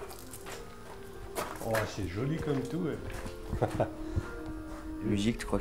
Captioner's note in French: Rire